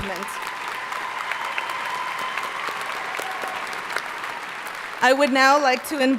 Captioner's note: audience cheering and applauding